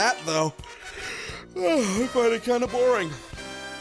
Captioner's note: yawn